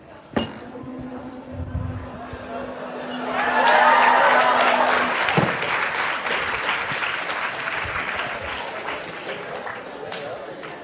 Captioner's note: applause